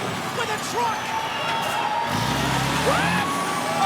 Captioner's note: audience cheers